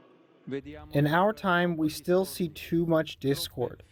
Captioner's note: through translator